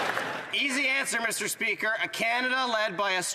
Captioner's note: some Applause